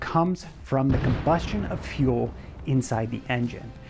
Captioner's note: fire cloud explodes